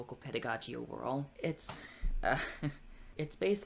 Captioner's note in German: lacht